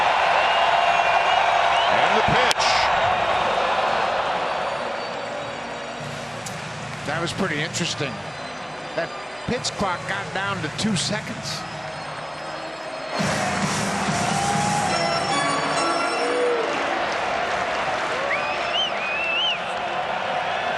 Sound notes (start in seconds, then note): 8.3 cheering and Applause